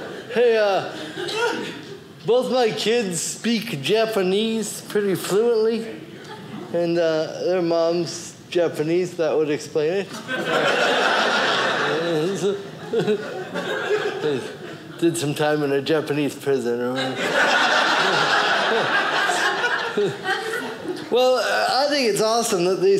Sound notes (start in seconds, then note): 10.2 audience laughing; 17.0 audience laughing